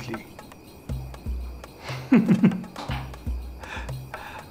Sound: chuckles

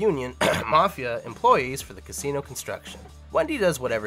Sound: coughs

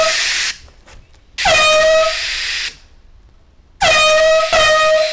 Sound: horn blares

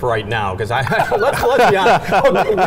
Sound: laughing

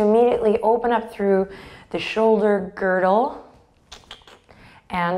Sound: clicks tongue

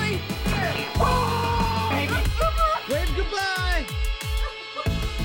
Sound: scream

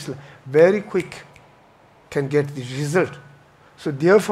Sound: clicks fingers

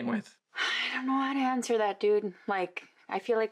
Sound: she sighs

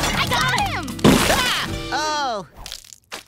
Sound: screaming

